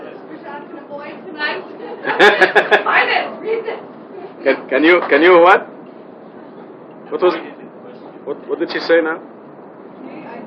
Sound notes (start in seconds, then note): 2.0 laughing